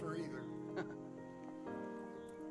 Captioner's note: laughs